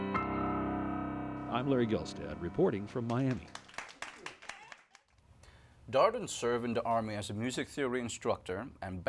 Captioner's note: applause